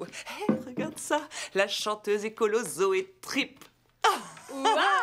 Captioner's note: laughs